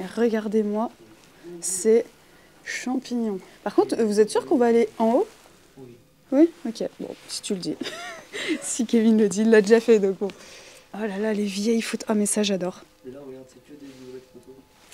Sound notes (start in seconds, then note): 7.8 laughing